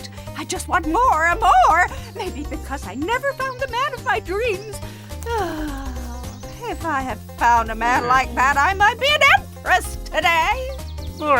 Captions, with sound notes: I just want more, and more! Maybe because I never found the man of my dreams. (witch sighs) If I had found a man like that, I might be an empress today.